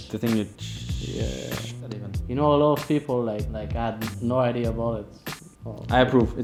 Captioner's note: tshhhhh